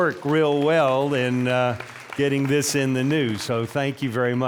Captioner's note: applause